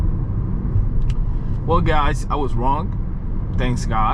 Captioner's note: car engine roaring